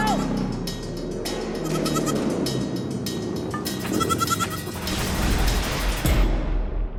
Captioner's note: goat bleating